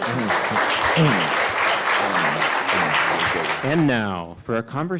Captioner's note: audience clapping